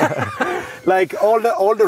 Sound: men laughing

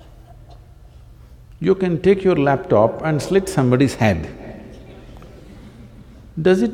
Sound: few Laugh

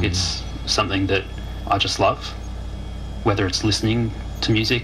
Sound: mmm

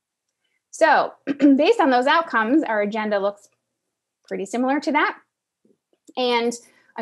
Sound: cough

